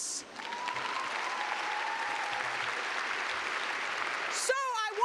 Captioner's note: cheers and clapping